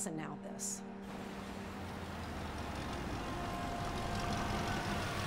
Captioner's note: engine rumbling